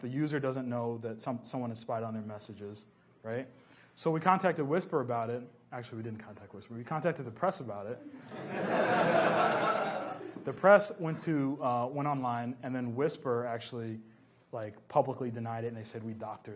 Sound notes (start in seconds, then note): 8.0 laughs